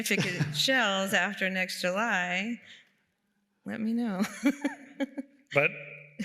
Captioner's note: laughs